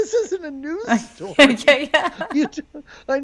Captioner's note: laughs